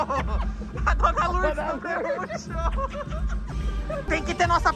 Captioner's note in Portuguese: risos